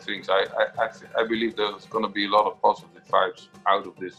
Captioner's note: speaks in foreign slang